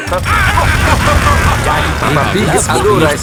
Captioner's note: drilling and laughing